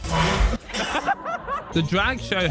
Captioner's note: laughing